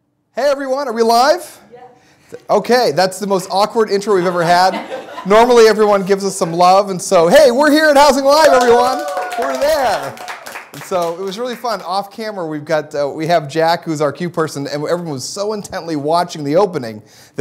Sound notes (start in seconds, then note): 4.1 laughter; 8.4 applause